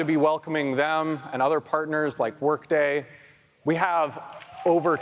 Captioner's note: audience applauds